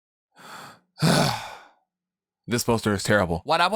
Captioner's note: sigh